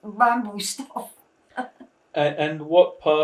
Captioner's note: laughing